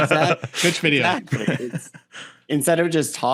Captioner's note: all laugh; laugh